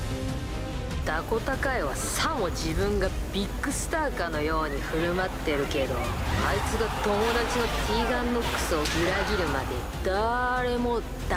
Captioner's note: speaking in foreign language